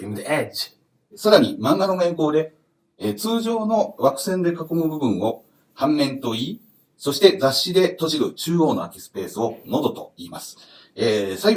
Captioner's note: speaking Japanese